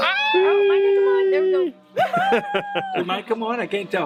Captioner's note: group cheering